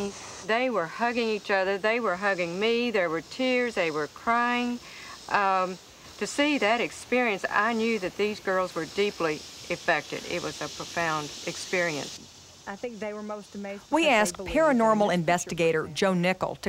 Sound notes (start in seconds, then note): none